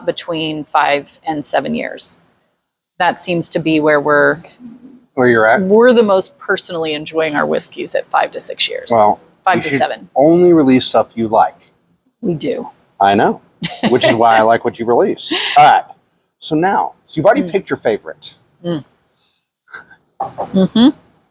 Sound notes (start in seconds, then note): 13.7 laughs